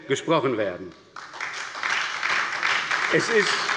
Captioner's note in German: Beifall bei der SPD und der FDP